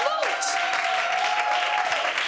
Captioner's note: applause